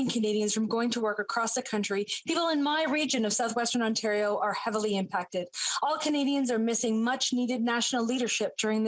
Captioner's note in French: voix de l'interprète